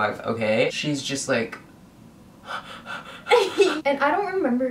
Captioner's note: pants heavily